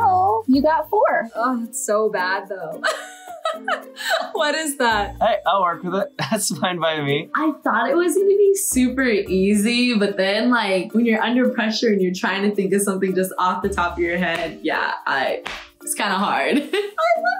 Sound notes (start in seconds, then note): 2.8 laughs